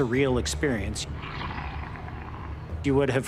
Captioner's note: growling